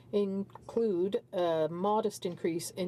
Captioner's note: speaking in french